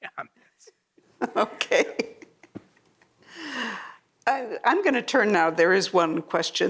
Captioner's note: laughs